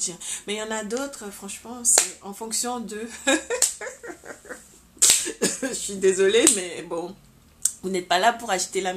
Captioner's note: laughs